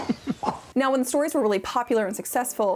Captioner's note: laughing